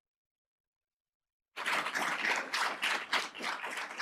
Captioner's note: applause